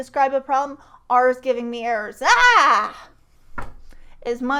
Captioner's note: yells